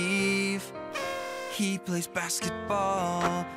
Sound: party favors blow

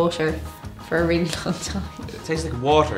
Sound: laughs

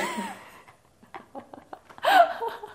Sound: laughs

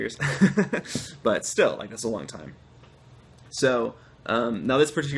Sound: laughter

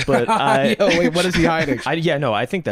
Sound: laughs

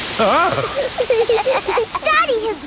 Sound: laughing

